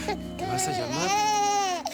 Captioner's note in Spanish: Llanto del bebé